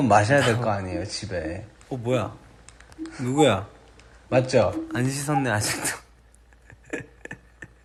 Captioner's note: laughs